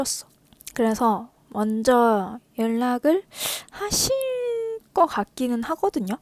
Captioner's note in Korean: 콧방귀